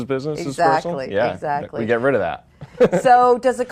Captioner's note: laughing